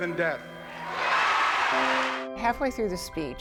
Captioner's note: raucous cheering